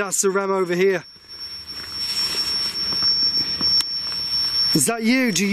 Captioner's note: alarm ringing